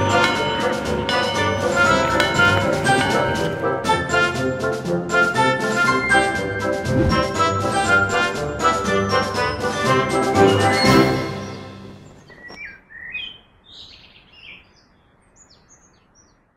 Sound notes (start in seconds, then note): 11.3 birds chirping; 11.3 music fades